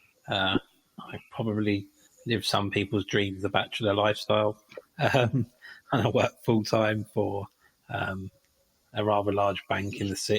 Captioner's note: chuckle